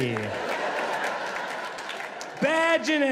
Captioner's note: audience laughs